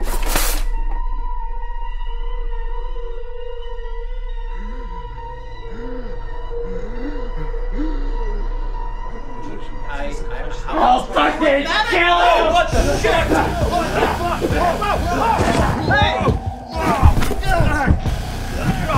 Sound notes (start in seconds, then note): 5.6 Dave wheezes; 14.4 dramatic music